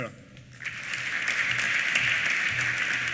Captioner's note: applause